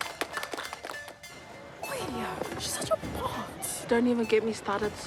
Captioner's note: students chatter